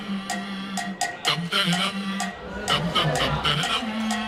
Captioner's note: Sonido de tararear